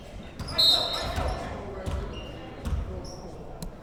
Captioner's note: whistle blows